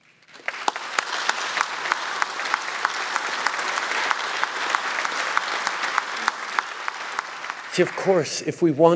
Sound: applause

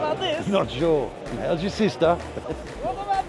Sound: chuckling

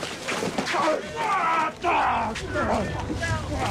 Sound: all groaning

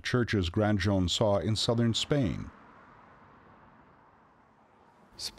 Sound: cars humming

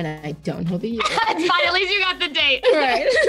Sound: laughing

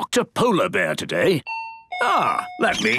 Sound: dinging

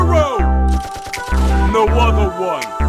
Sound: gunshots

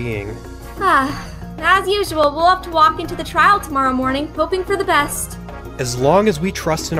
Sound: sigh

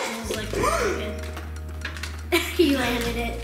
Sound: gasp

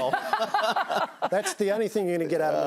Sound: laughs

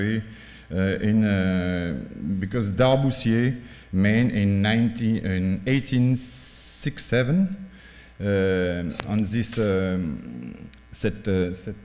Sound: french

